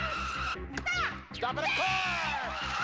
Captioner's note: cheering